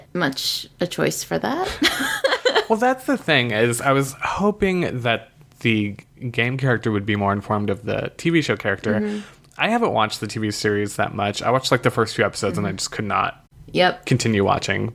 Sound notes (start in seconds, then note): 1.7 laughs